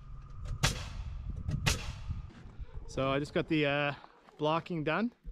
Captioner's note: footsteps